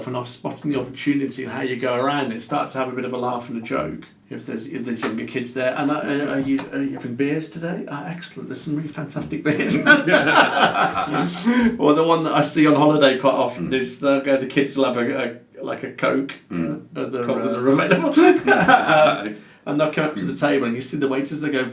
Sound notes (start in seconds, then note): 9.5 both laughing loudly; 18.0 laughing loudly